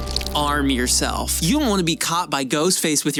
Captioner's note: none